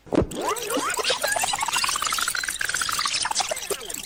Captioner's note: tape squealing